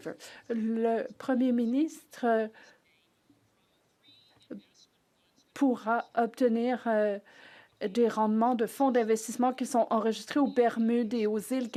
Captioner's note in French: voix de l'interprète